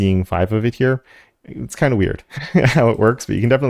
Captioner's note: laugh